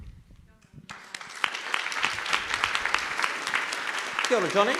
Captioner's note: audience claps